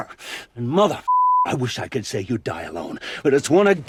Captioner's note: beeper